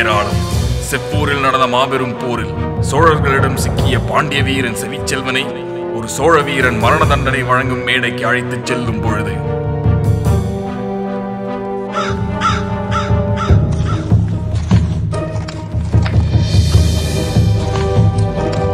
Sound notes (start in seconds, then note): 11.8 crows cawing